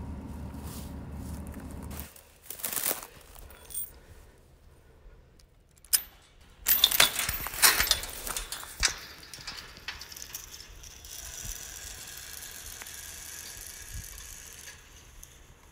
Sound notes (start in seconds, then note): 2.1 crunching continues; 5.8 lock unlocking; 6.6 loud metal noises from chain; 9.3 gate creaking